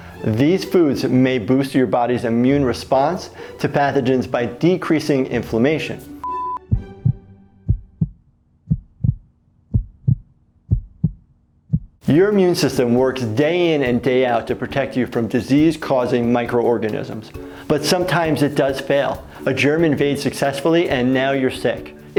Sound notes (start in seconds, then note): 6.6 heart thumping